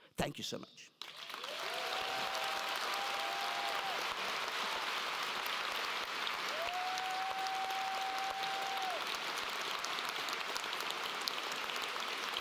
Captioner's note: applause